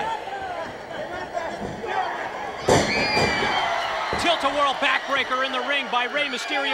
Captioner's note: applause